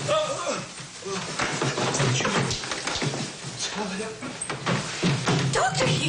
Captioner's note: groans